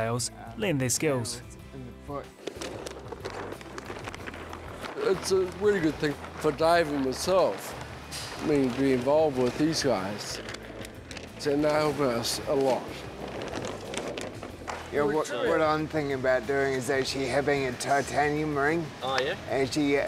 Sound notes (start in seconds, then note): 3.2 rustle of sail